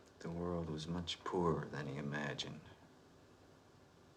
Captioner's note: none